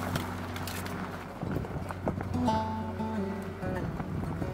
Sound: road noise

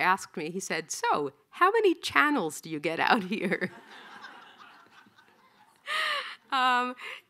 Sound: laughing

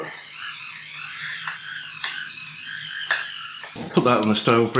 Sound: grind grind

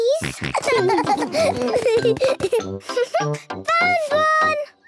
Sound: snorting and giggling; giggling

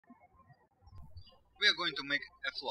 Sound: birds chirping

